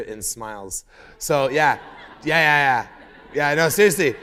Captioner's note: laughter